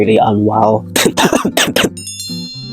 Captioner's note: coughing montage